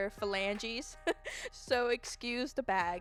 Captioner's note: laughs